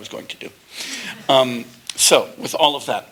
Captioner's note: laughter